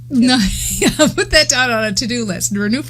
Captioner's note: laughs